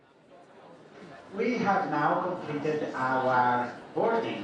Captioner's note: overhead announcement